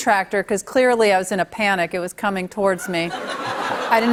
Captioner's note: laughter